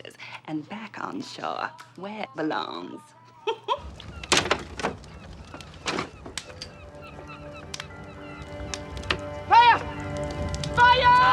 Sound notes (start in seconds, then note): 3.0 giggling; 5.4 seagulls cawing